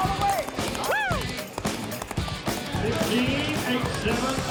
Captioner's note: fast hoofbeats